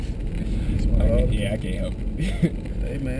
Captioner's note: laugh